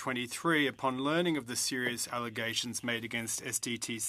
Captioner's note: speaking french